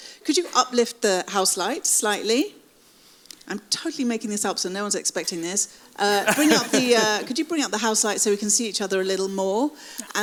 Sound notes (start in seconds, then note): 6.2 laughs